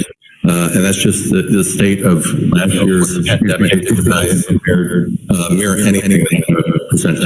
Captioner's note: distorted sound